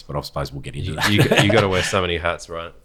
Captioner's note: laughs